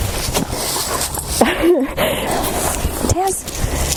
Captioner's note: laughing